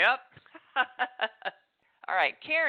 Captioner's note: laughs